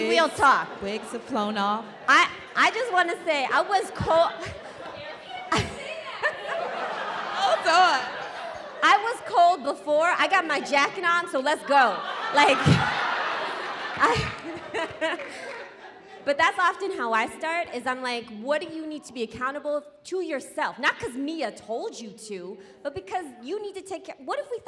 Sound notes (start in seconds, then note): 4.3 laughing; 14.2 audience laughing